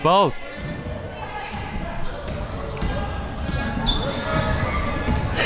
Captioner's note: players yelling